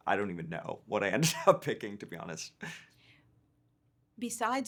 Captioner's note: chuckling